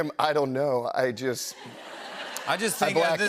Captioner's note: laughter